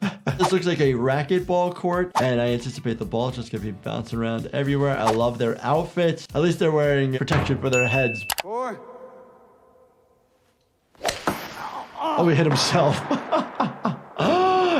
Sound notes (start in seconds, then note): 11.1 ball thuds; 13.3 laughs